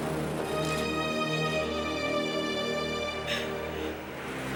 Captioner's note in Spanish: Música de suspense; Mulher gemendo